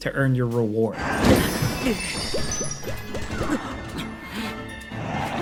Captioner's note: Link grunts, bright music